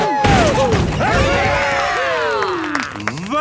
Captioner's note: crowd; applause